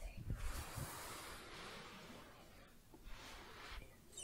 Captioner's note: brushing fabric